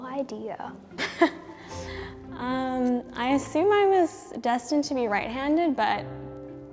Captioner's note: laughs